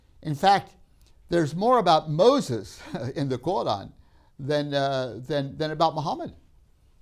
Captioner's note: laughs